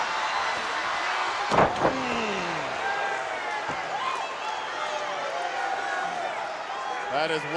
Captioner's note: crowd cheering; body thudding; Bobby groaning; crowd cheering